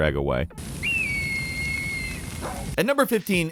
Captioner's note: eagle cries